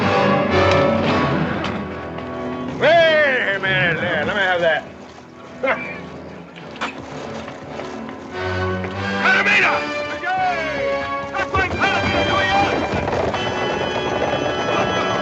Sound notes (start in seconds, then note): 6.5 spits; 8.9 men shouting and horses galloping; 13.1 dramatic music